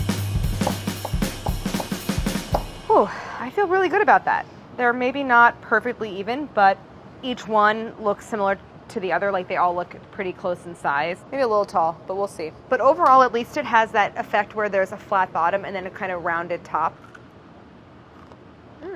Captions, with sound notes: [chopping] Phew. I feel really good about that. They're maybe not perfectly even, but each one looks similar to the other. Like, they all look pretty close in size. Maybe a little tall. But we'll see. But overall, at least it has that effect where there's a flat bottom and a kind of rounded top. [crunching]